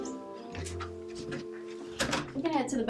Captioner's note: door closes